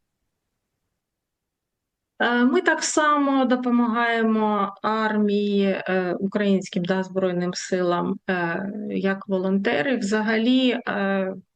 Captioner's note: foreign language